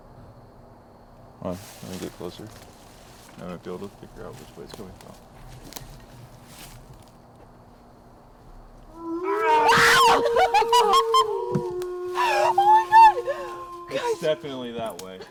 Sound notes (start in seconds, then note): 8.9 aullido de lobo; 9.0 grita y ríe